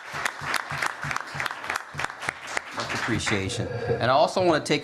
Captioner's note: applause